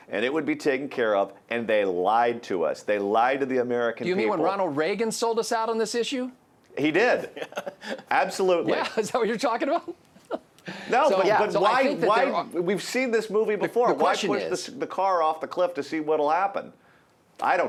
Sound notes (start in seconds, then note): 7.2 laughs; 12.1 laughs